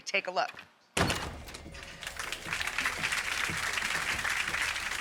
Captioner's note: audience applauds